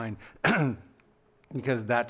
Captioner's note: clears throat